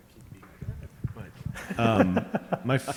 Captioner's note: laughing